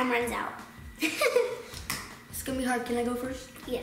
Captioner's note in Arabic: يضحك